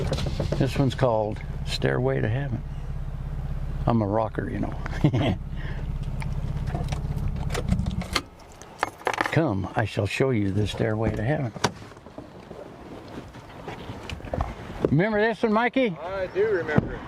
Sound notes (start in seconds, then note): 4.8 laughs